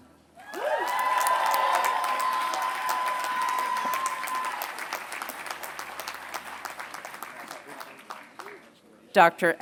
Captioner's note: applause